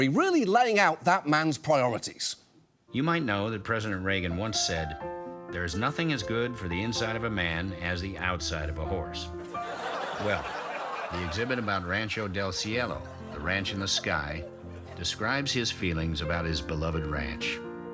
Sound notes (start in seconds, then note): 9.5 audience laughs